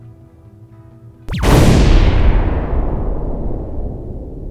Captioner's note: explosion